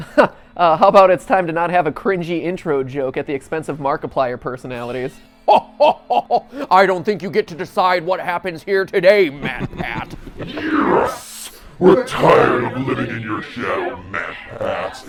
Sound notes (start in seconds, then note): 6.0 cringy laugh